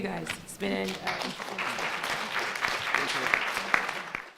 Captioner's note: applause